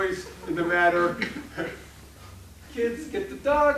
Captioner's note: laughing